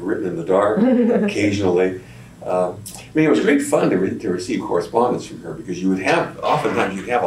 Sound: laughs

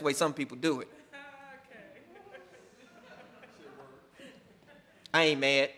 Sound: laughing

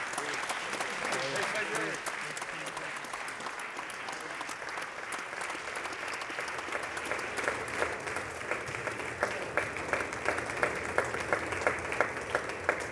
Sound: applause

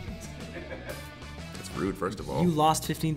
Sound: laugh

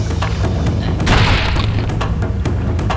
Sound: crashing

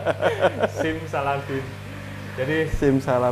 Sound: laughs

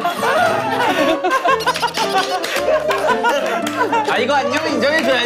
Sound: the person who did it is also laughing

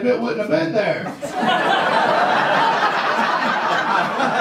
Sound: audience laughs

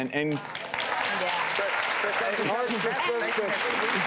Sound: audience applauding

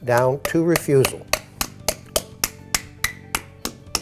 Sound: tapping

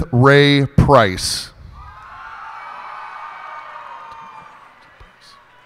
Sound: cheers and applause

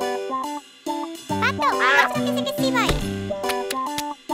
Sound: speaks gibberish

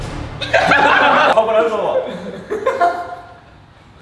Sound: group laughs

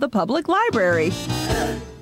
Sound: gasps

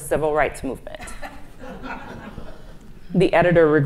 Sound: audience laughs

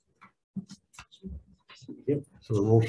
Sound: group chattering

